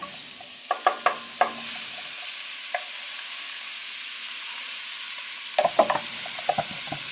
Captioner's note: ingredients sizzling; container thudding